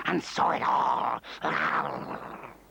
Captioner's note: snarling